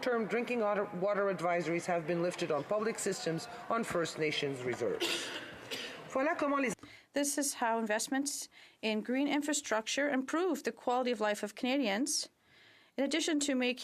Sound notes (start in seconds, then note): 9.5 speaking French